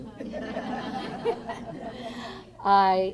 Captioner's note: laughter